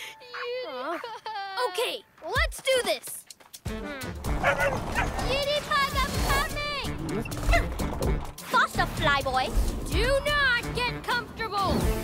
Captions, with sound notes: - (Crying) Unipug... - Huh? Okay, let's do this! - (Yapping) - Unipug, I'm coming! Faster, Fly Boy! Do not get comfortable.